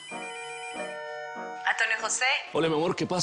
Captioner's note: Suena el teléfono